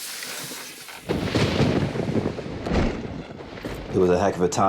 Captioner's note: thunder crashes